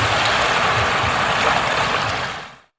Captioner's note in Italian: Applauso